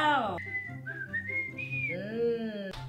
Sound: whistling

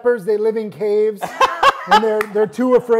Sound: laughs

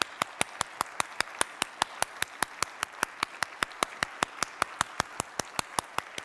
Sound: applause

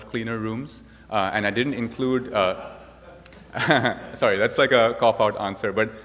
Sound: laughs

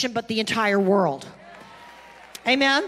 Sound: congregation clapping and cheering

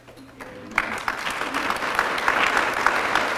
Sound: applause

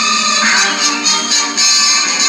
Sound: swoosh

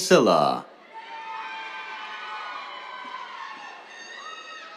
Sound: cheers

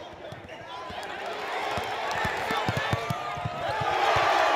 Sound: audience cheers

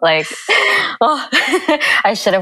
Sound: chuckle

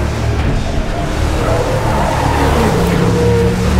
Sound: tires squealing; suspenseful music

